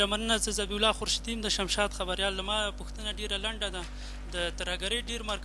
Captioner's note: speaking in foreign language